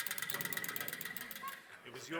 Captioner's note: false teeth chattering